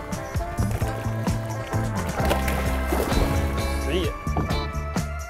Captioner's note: water splashing